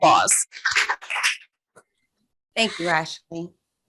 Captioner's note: group clapping